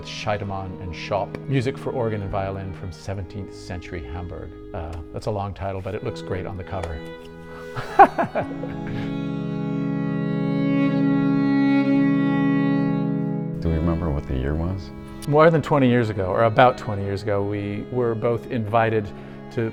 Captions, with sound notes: Scheidemann and Schop, music for organ and violin from 17th century Hamburg. That's a long title, but it looks great on the cover. (laughing) Do we remember what the year was? More than 20 years ago, or about 20 years ago, we were both invited to